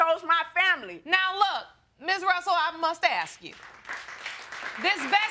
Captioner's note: audience claps